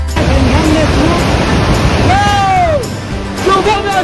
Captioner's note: shouting over noisy river